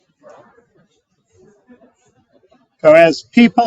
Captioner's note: participants murmuring